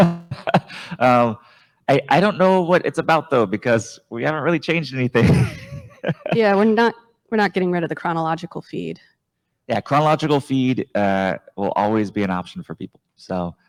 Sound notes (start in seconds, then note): 0.2 laughs